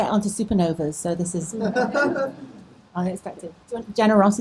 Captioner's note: audience laughing